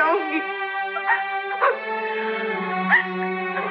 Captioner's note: Crying